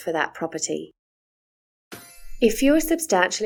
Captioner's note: chime sound